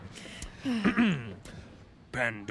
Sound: chuckles; clears his throat; reading aloud

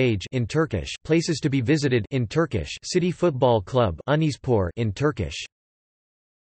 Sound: in Turkish; in Turkish

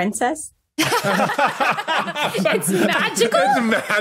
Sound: others laughing

